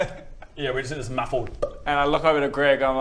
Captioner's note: pop